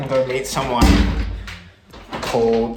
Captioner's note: door closes